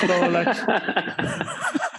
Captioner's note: laughter